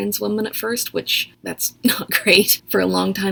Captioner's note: nervous laugh